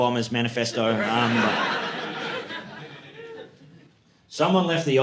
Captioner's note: audience laughing